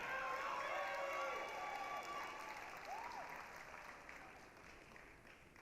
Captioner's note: applause, cheering